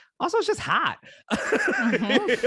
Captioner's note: laughter